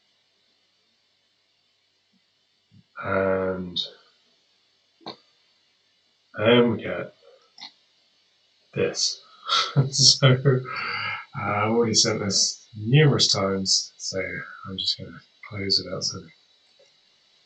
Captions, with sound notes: and here we go - this. So, (laughs) I've already sent this numerous times so I'm just going to close without sending.